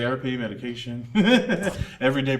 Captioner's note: laughs